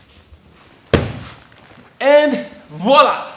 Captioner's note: mat slamming